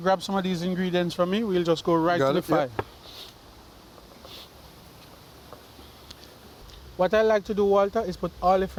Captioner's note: silence